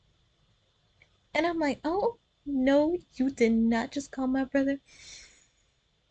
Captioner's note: deep breath to hide the anger